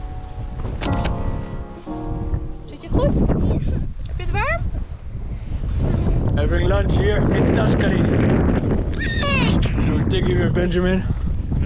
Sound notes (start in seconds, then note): 0.0 electronic music fades out; 2.5 wind blowing; 8.7 wails; 11.0 wind whipping